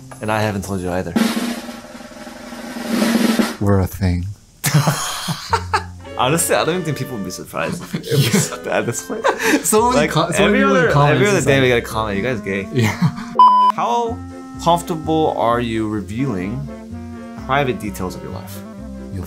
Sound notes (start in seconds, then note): 2.0 drum roll; 4.6 both laughing